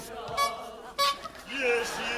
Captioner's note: bike horn honking